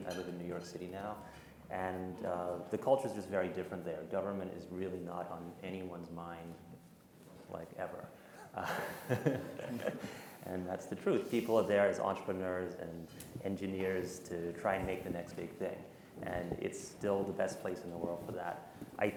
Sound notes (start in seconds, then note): 8.6 all laugh